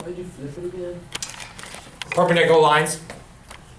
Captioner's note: voiceover